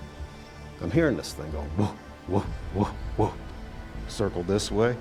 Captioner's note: mimics creature